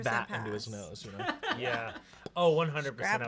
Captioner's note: laughs